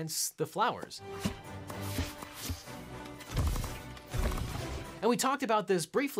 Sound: upbeat music; hoses thudding

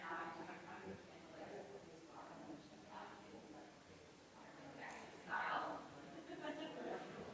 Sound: people chattering distantly continues

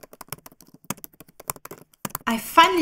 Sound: typing

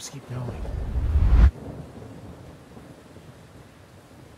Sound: thunderstorm

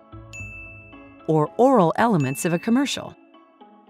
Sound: bell dinging; bell dinging

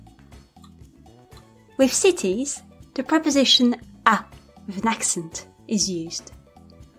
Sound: with an accent

